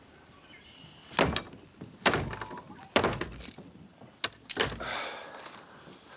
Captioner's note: stone thudding; chain rattling; John sighs